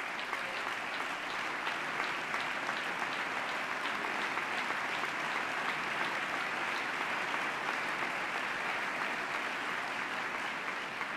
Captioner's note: applause